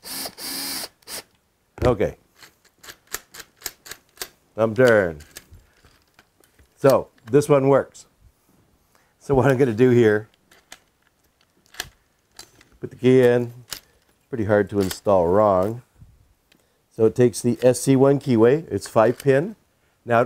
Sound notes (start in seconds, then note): 2.4 hardware clicking